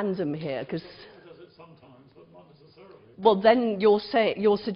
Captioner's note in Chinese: 無聲